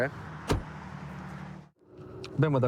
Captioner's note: door bangs